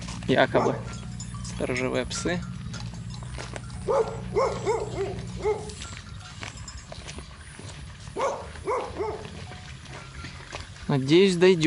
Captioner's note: dogs barking